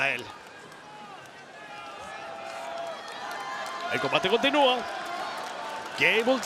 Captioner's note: applause